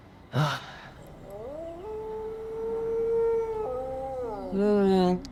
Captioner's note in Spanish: aullidos